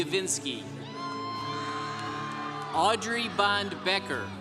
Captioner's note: congregation cheering